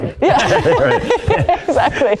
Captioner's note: group laughing